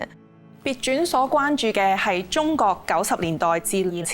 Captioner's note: Cantonese